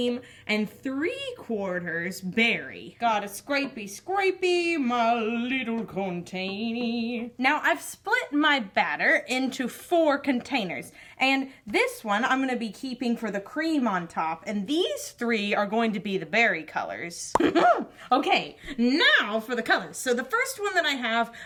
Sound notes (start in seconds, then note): 17.4 laughs